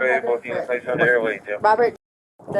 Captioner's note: radio chatter